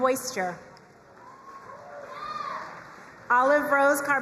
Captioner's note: crowd cheering and applauding